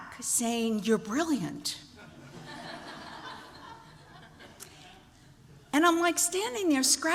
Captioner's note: laughter